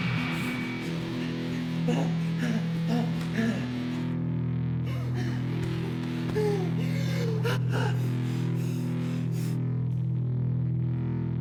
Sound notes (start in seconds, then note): 2.0 Joe groaning; 4.8 hard breathing